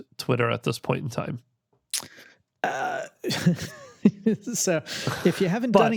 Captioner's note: laughs